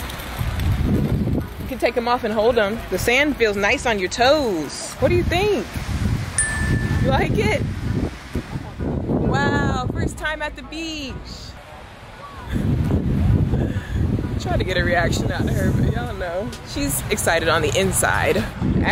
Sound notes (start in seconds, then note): 6.4 dings; 14.4 chuckles